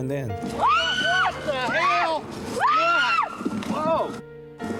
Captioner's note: screaming